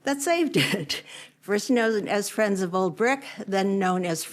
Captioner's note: laughter